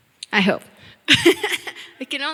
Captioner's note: chuckling